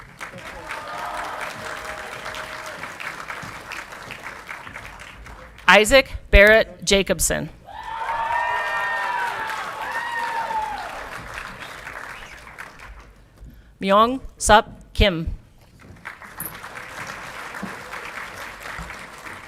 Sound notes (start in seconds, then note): 0.0 audience clapping and cheering; 7.6 audience clapping and cheering; 15.6 audience clapping